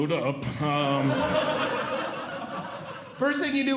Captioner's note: audience Laughing